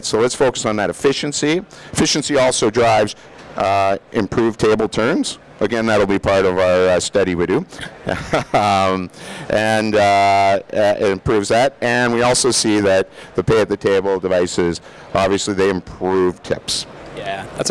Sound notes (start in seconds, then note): 7.7 laughing